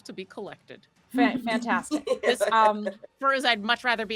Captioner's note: laughing